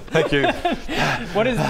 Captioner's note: out of breath